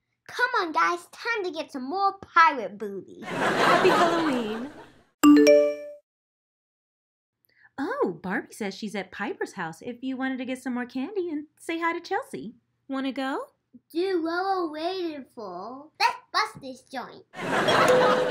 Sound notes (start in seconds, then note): 3.2 audience laughs; 5.2 phone dings; 17.3 audience laughs